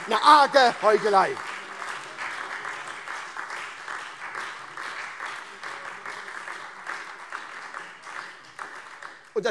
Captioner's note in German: Beifall SPD, Freie Demokraten und DIE LINKE